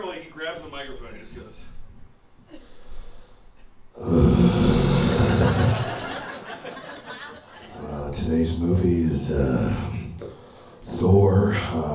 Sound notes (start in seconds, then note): 3.9 sighing